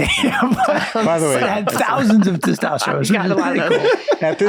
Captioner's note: laughing